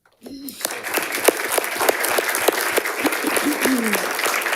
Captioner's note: audience applauding